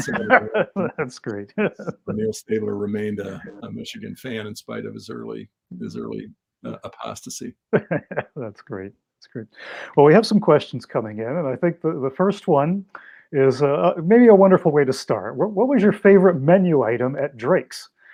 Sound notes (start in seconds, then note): 2.8 laugh